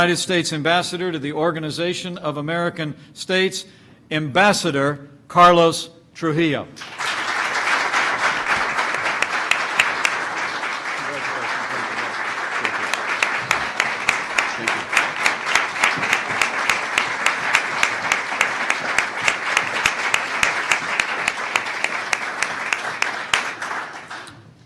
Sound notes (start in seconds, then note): 7.7 applause